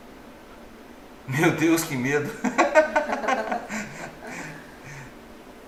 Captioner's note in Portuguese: risos